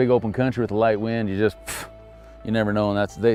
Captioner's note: scoffs